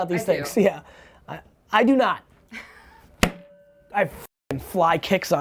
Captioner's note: laughs